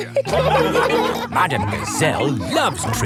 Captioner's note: laughing